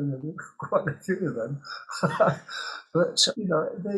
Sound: he chuckles

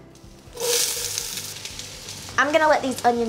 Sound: oil sizzling

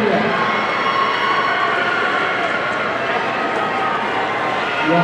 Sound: audience cheering

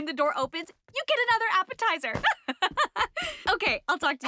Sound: laughing

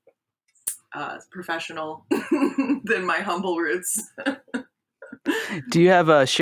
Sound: laughs

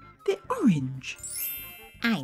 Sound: ringing sound

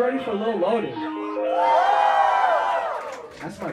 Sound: crowd cheering

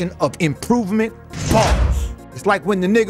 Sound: bars slamming

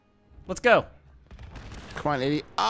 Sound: explosion

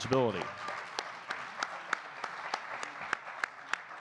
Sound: audience clapping

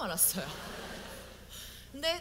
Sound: audience : Laugh

